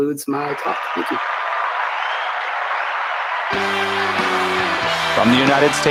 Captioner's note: applause